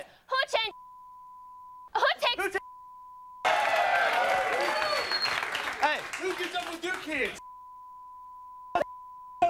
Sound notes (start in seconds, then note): 0.7 beep; 3.4 audience cheering; 7.4 beep